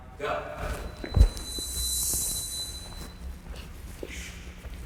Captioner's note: feet thumping